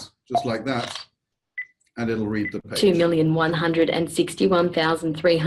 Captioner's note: beep and camera click heard after device is tapped